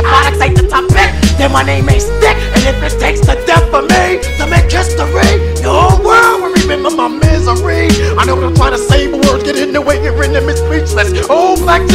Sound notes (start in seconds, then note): 3.5 umm, ummmhh!!